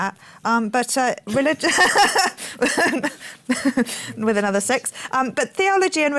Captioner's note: laughs